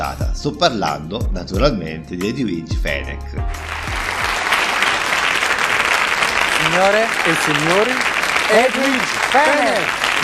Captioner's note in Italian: Applauso